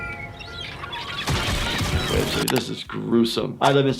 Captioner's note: seagulls chirping